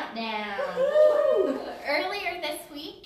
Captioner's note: cheers